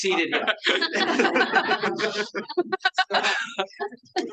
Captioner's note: audience laughing